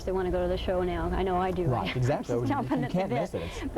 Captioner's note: laughing